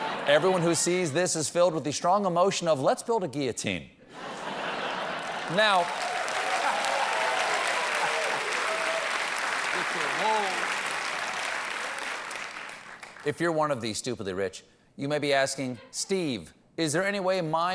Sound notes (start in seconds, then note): 2.9 applause; 4.1 laughter